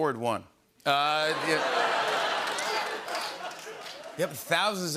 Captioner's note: laughter